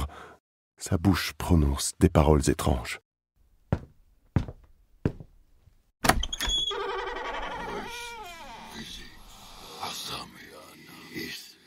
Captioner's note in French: bruits de pas, une porte s’ouvre